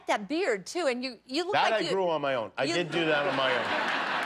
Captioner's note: laughter